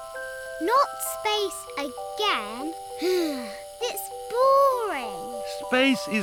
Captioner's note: sighs